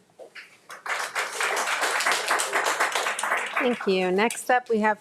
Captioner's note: audience applauds